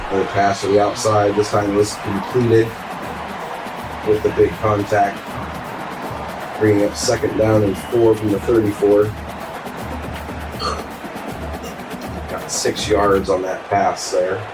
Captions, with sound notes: The pass to the outside this time was completed with a big contact. Bringing up second down and four from the 34. [Crowd Noises] Got six yards on that pass there.